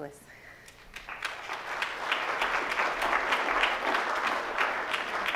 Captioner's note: audience applauds